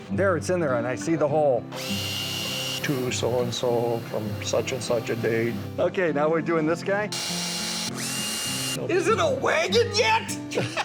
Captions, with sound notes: - There its in there and I see the hole. (drill whirs) - To so-and-so, on such and such a date. - Okay, now we're doing this guy? (drill whirs) Is it a wagon yet?